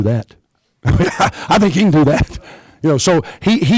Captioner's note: laughs